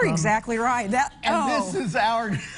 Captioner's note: laughter